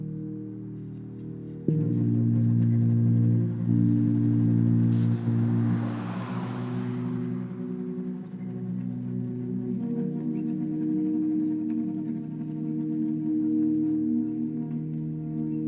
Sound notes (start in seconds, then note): 5.6 car rustling; 9.5 gentle distorted music continuing